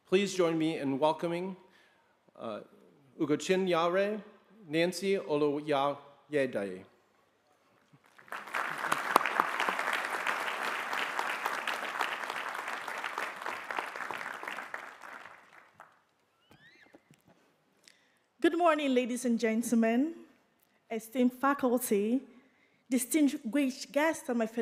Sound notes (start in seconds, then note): 7.9 applause